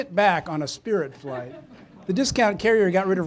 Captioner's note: audience member laughing